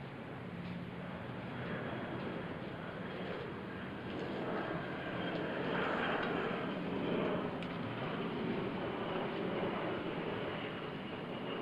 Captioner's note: aircraft softly rumbling overhead